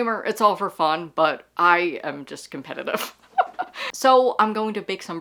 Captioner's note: laughing